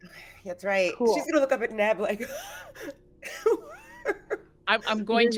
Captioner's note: gasping